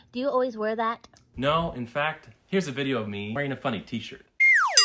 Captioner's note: silly noise